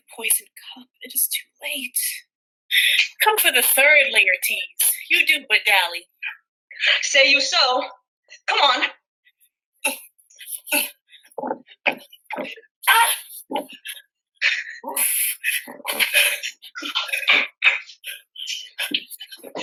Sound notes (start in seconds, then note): 9.8 grunting; 13.1 groans